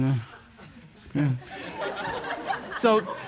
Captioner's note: audience laughs